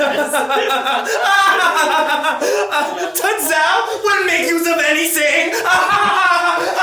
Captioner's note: laughing